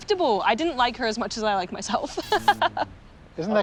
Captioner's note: laughs